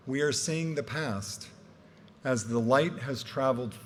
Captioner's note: none